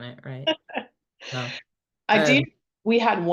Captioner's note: laughing